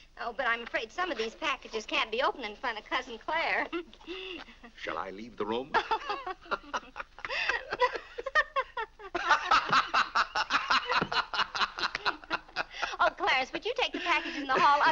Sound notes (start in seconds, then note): 3.6 chuckles; 5.7 laughing